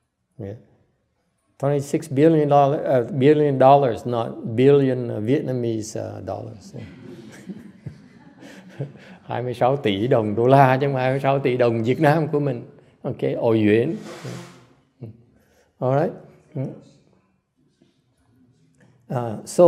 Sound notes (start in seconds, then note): 6.7 laughter